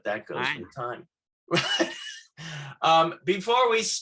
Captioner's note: laughing